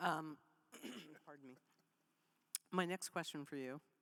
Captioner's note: clears throat